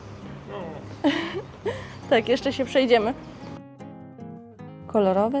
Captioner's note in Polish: śmiech